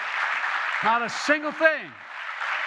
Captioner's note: applause